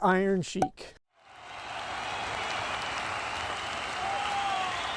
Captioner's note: crowd Noise